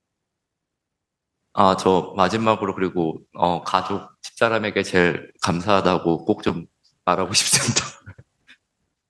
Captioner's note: laughs